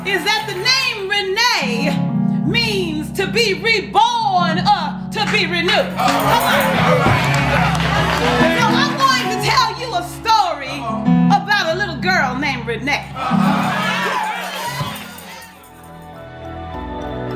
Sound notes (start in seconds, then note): 5.8 crowd; 13.1 congregation cheers